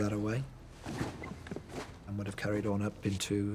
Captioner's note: items clattering